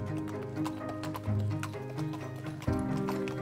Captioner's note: horse hooves clopping